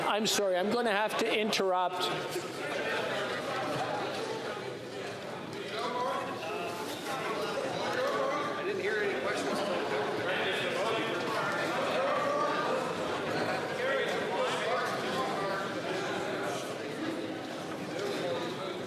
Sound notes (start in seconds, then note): 8.0 chatter